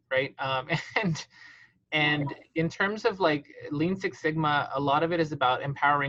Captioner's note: laughs